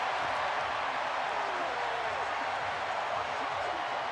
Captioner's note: cheering